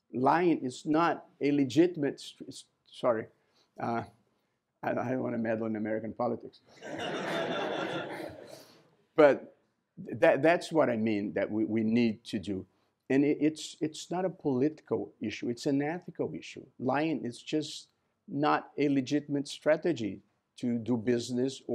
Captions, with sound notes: Lying is not a legitimate-- sorry, I don't want to meddle in American politics. [LAUGHTER] But that's what I mean that we need to do. And it's not a political issue. It's an ethical issue. Lying is just not a legitimate strategy to do business